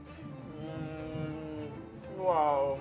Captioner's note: moaning